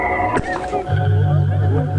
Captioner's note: cough